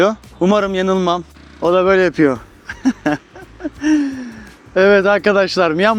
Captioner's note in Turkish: kahkaha